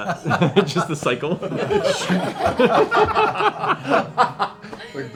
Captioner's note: laughter